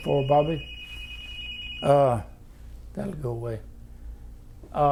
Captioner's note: phone rings in background